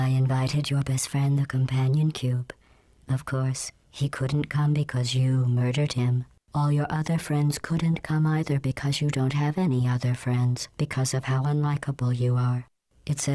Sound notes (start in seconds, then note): none